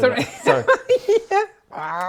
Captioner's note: laughs